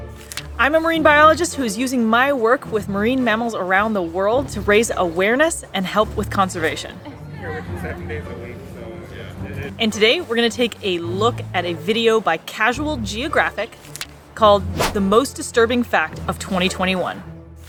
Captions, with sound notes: I'm a Marine Biologist who is using my work with marine mammals around the world to raise awareness and help with conservation. (background chatter) And today, we're gonna take a look at a video by Casual Geographic called the "Most Disturbing Fact of 2021".